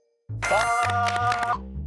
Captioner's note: loud applause